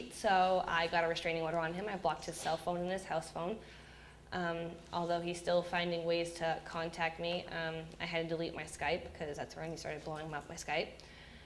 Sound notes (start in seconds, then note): none